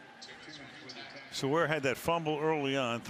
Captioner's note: pa announcement